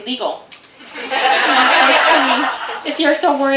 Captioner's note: audience laughter